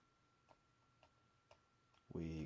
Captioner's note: more silence; silence